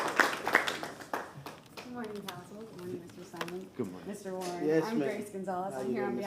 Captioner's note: applause